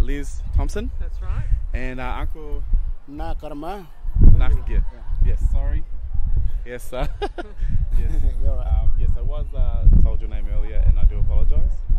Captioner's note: laughing